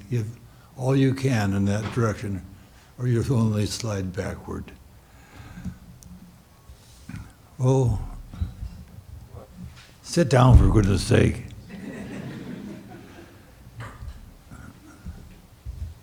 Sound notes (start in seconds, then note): 11.6 audience laughs